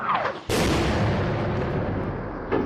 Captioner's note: explosion